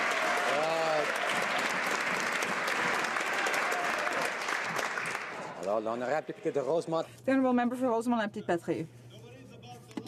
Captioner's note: some Applause